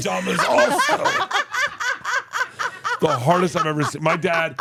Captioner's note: laugh